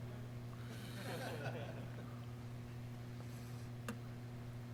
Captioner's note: laughing